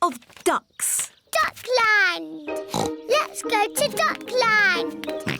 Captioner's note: oinks; oinks